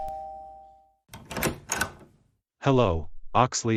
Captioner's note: door opens